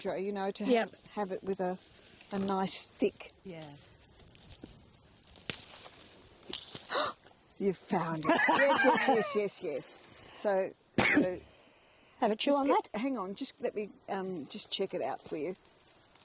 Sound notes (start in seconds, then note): 6.9 gasps; 8.2 laughing; 11.0 coughs